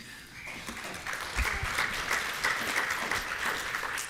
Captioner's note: applause